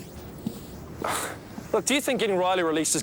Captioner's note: Dave sighs